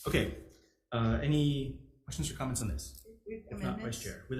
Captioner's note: none